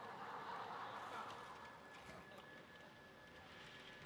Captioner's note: laugher and applause